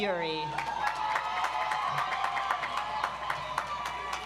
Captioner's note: audience applauds